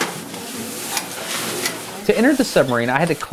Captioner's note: narrating